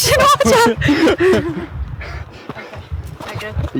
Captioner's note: laughing